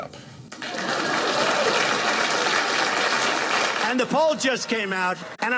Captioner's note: audience clapping